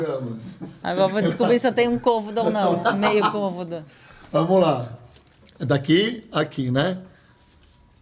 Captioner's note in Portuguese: risadas